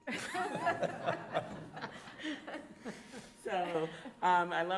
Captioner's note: audience laughs